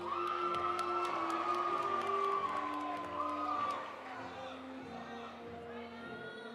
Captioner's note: audience cheering; audience applauding